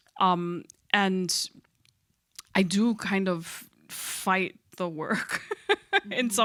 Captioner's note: laughs